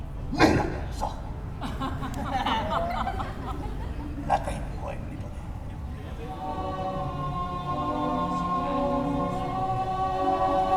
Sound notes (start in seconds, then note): 1.6 audience laughs; 6.2 romantic music